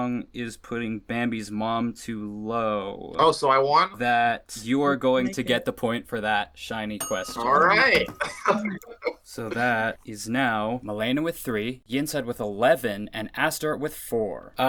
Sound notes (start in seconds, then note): 7.4 laughs